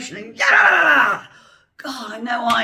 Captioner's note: angry noises